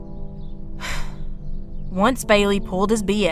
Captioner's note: sigh